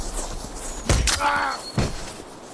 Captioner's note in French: bruit de flèche et cri de douleur